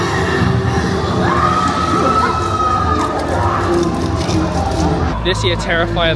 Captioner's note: people screaming; scary music